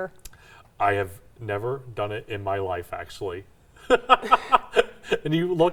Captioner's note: laughs